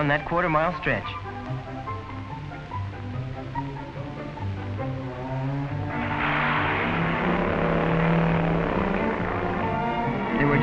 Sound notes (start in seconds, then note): 5.8 hot rod revving